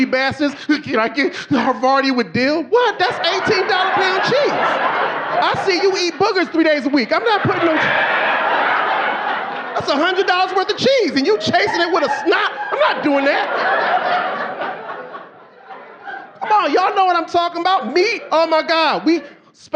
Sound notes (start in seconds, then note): 0.0 audience laughing; 5.9 audience laughing; 10.0 audience laughing; 14.8 audience laughing